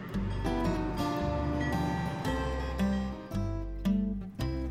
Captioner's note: horse neighs; train clatters